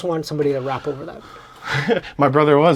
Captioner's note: both laughing